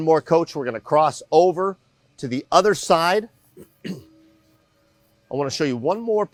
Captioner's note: clears throat